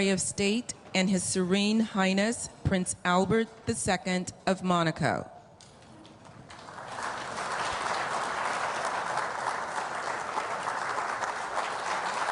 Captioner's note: applause